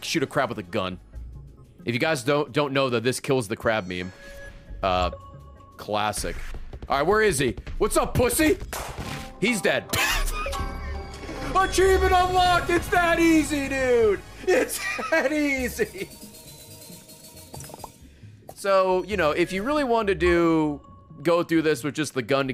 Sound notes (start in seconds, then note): 10.0 laughs